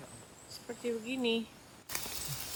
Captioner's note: raining